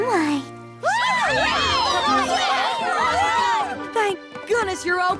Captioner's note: cheers and shouts